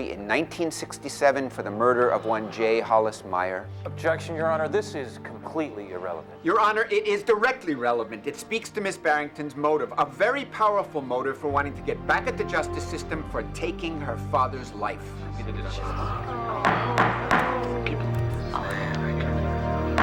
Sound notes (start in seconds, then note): 15.3 crowd murmuring; 16.6 gavel banging